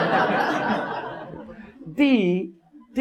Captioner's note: audience laughs